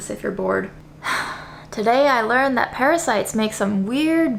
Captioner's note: sighs